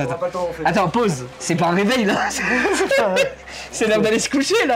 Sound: laugh

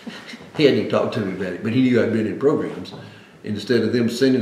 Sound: laughs

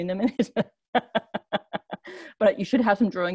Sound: laughs

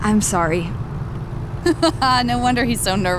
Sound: laughing

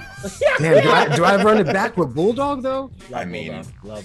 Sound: laugh

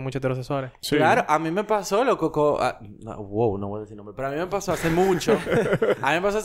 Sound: laughs

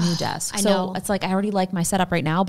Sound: sighs

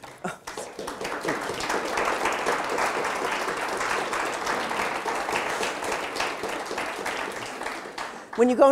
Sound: audience applauded

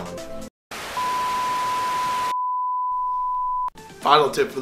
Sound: TV hisses and beeps

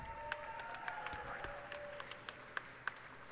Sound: cheers and applause

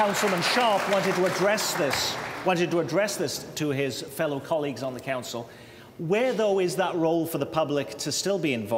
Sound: applause

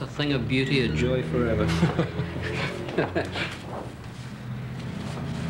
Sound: chuckling

